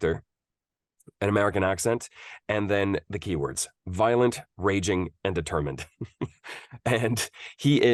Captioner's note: laughs